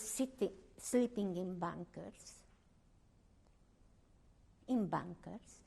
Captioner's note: pauses for 3 seconds